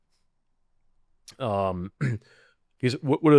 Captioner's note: clears throat